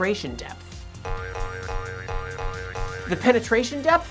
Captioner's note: boing Noises